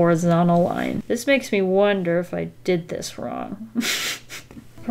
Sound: nervous laugh

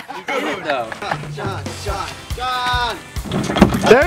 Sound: everyone laughs; cheering

